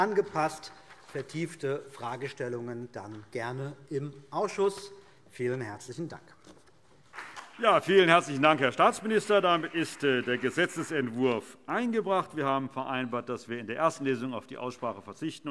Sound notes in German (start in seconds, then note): 7.1 Beifall CDU und BÜNDNIS 90/DIE GRÜNEN